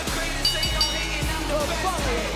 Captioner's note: bell rings